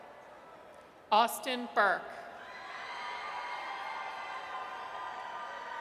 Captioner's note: audience cheers